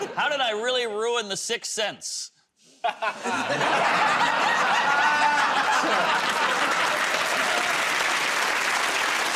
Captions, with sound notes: -How did I really ruin "The Sixth Sense"? -[ Laughs ] [ Laughter ] -Ah! [ Applause ]